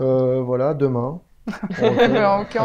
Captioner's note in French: rire